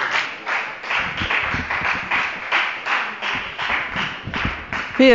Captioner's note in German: Beifall bei der FDP